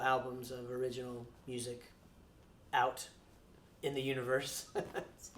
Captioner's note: laughs